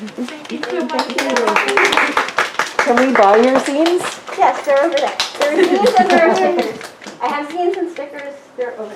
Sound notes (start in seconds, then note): 2.7 snaps and hmms; 2.8 applause; 8.3 applause